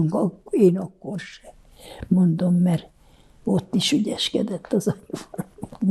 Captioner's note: laughing